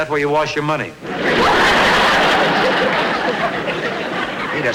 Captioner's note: audience Laughing